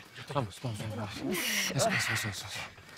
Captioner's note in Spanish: Quejidos